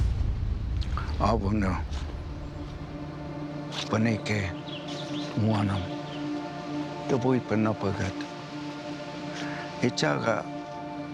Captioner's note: non-english speech